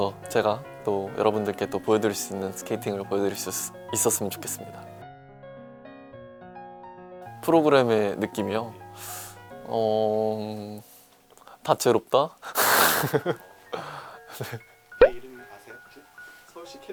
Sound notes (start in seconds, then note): 12.8 laughter